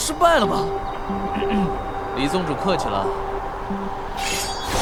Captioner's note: cough cough